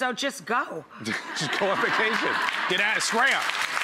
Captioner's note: audience laughs